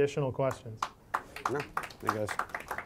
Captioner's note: applause